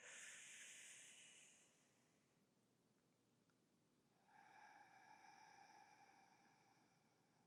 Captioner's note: breathing